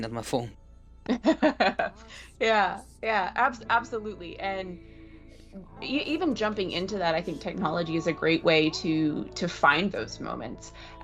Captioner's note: laughs